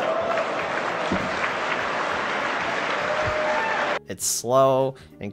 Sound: crowd groans in Gaben being interrupted; crowd cheers at Microsoft's expense

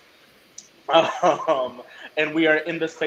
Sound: laughs

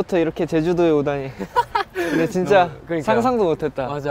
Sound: laughing

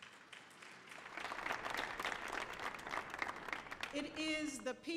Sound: audience applauding

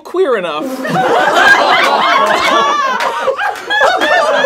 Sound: laughing

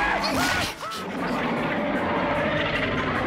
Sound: screaming; roaring

